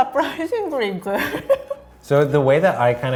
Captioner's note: laughing